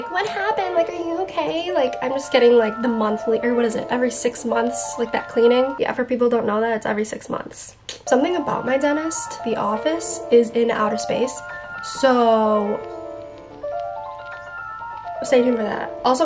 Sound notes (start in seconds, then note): 7.4 clicks tongue; 12.2 calm melodic music